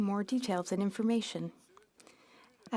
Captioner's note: speaking French